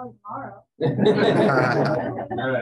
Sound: laughter

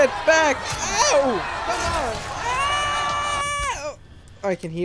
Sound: screams like a coward

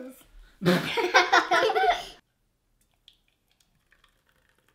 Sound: kids laughing

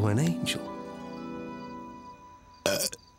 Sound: burps

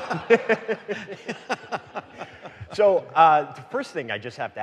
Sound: audience laughing

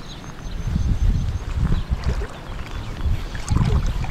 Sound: water splashing

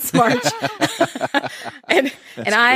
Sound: laughing

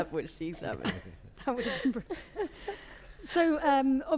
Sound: laughter

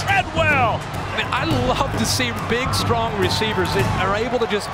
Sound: voiceover

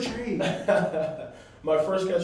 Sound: laughter

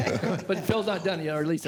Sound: laughter

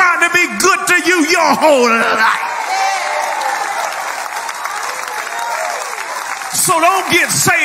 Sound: people cheering

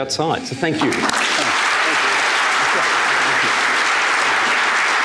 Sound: applause

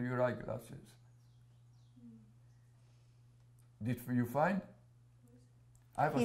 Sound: pauses for 3 seconds

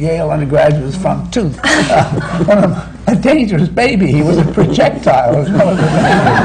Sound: laughter

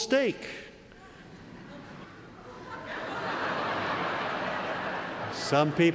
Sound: laugh

